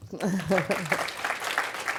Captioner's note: applause